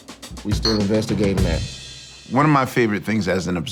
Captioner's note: glasses clink